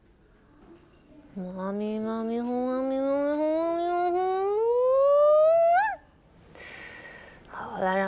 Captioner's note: mumbling of spells